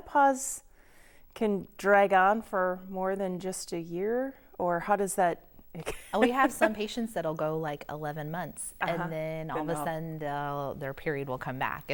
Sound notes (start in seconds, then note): 5.4 laughing